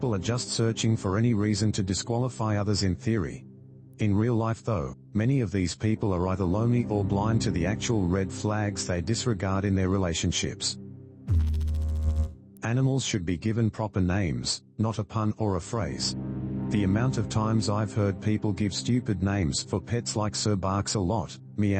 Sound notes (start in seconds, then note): 11.2 electrical noise